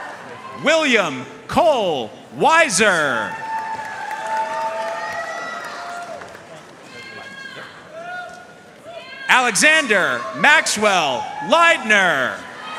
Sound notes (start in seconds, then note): 3.1 audience cheering and applauding